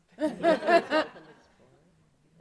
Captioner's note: audience laughing